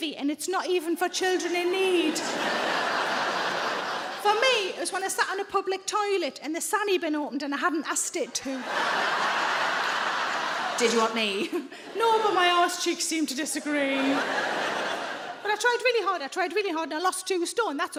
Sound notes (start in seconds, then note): 1.7 audience laughs; 8.4 audience laughs; 11.6 laughs; 13.6 audience laughs